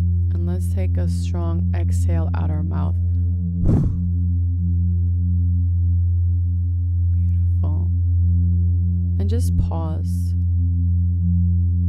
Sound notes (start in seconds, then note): 3.6 exhales sharply